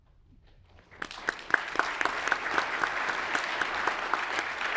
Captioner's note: audience applauds